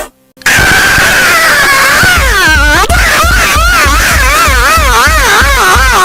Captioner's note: mild loud scream